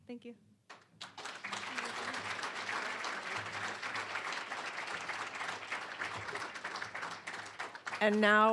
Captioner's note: applause